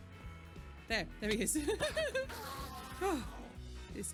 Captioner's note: laughing